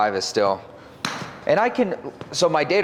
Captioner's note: club-head tapping